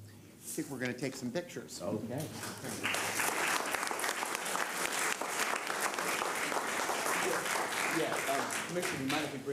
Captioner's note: applause